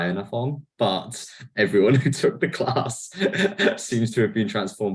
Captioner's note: laughs